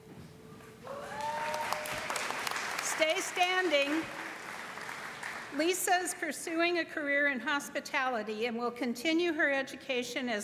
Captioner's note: applause